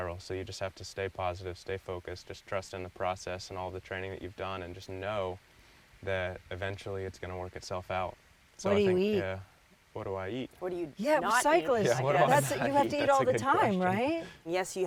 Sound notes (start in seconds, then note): 11.8 chuckling